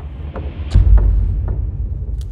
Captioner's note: Dumpfes Geräusch